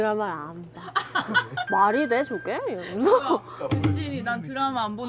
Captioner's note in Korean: 웃음